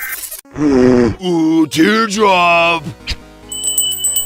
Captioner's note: blows raspberry